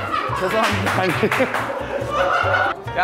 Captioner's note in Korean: ㅋㅋ